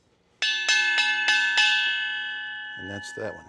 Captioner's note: ding ding ding